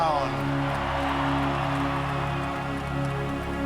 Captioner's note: cheering